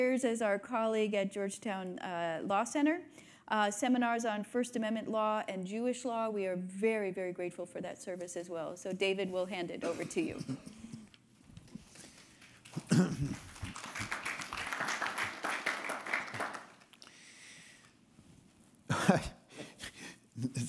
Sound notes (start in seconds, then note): 12.0 attendees clapping; 12.7 attendee coughing; 12.7 clears throat; 18.9 chuckles